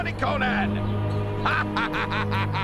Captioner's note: laughing